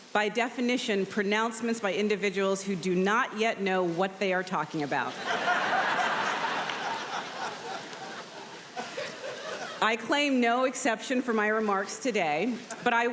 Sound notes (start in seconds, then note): 5.1 audience laughing